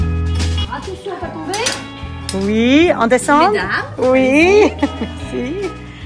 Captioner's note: women speaking in foreign language